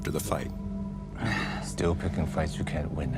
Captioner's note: sighs